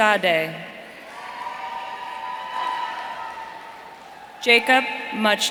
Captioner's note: audience cheering